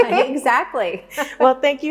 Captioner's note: laughs